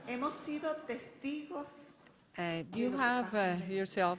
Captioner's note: speaking in foreign language